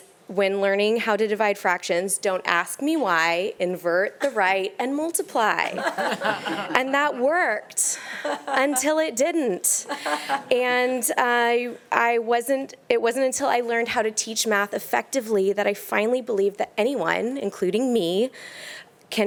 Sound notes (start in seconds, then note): 5.6 panelist laughing